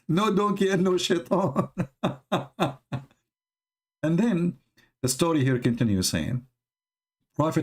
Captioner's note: Ketawa